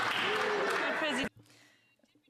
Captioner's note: some Applause